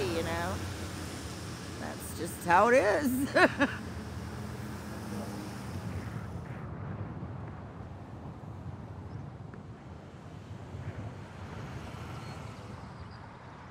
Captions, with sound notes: you know? That's just how it is. [laughs] [traffic humming]